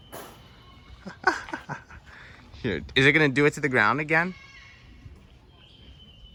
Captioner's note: laughs